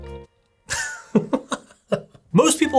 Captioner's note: laughs